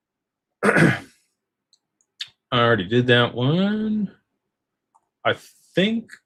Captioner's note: clears throat